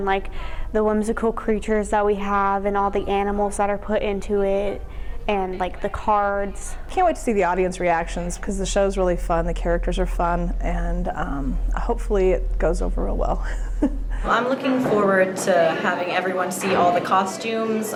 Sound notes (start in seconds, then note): 13.4 laughs